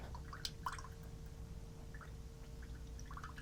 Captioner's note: sloshing water